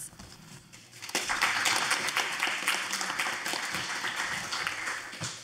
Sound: audience applauding

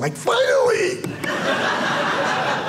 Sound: audience laughing

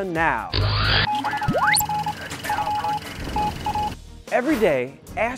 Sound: sound Effects

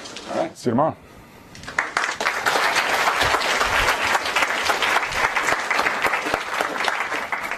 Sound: applause

